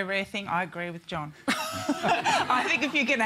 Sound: laughter

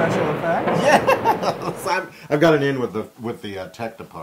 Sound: laugh

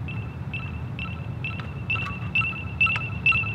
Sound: annoying beeping sound

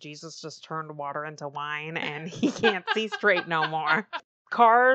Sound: laughs

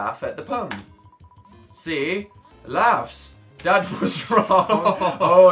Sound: laughs

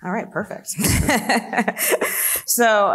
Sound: laughs

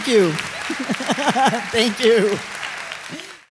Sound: laughs; applause continues

